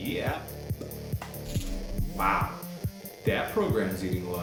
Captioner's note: menu sounds